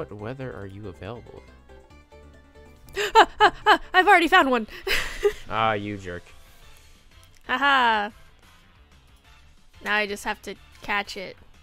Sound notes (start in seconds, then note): 2.9 spook noises; 2.9 laughs